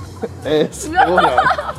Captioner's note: speaking in Spanish